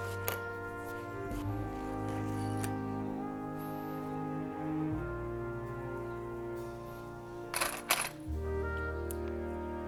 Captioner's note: clips rattling in the pot